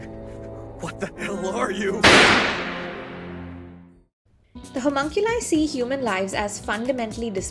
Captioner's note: gunshot